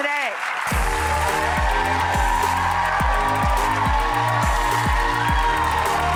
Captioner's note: audience cheers; upbeat music